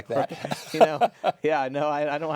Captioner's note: chuckling